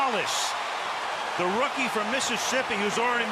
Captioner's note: cheering